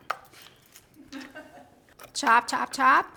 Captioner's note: laughing